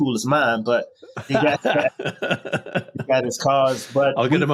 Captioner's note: laughing